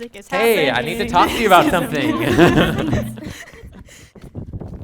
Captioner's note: giggling